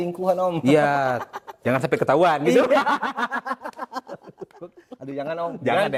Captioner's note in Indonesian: tertawa